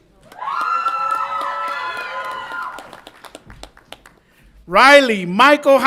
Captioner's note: audience applauds and cheers